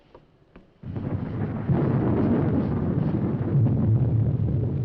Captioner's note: thunder rumbling